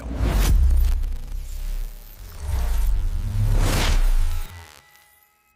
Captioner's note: electronic sounds